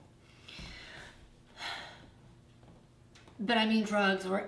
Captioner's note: sighs